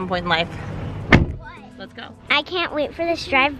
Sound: car door slams

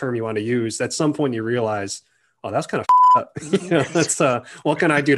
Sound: beeps

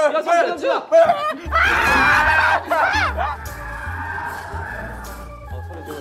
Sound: crow sound again

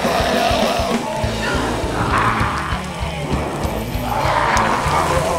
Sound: zombies shouting; flesh sizzling

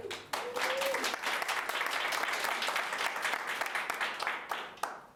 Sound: audience applauding

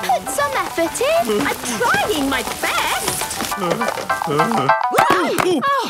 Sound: groaning; exclamations

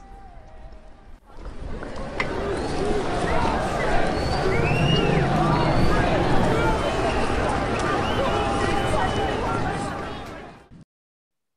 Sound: outside, crowds chanting and jeering

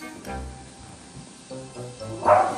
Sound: Oliver barks

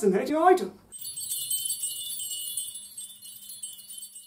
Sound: twinkling

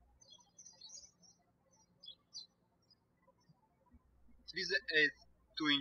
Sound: birds chirping

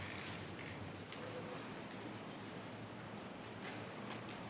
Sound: speaking faintly

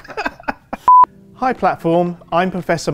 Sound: beep

